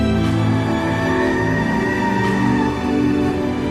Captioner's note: tires screeching